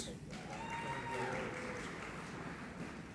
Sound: applauding

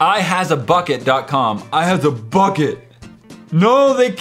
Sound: funny voice

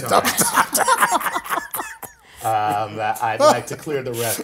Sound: laugh

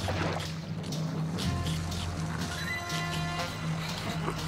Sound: slurping; laughing

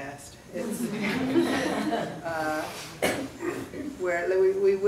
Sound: crowd laughing

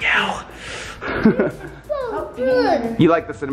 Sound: chuckles

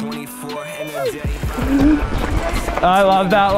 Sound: slow motion holler

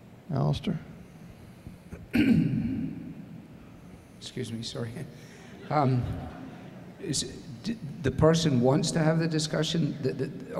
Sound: cleared throat

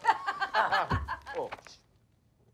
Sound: both laugh

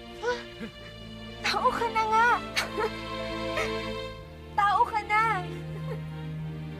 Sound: chuckles; gasps; chuckles

